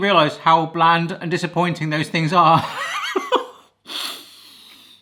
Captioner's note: laughs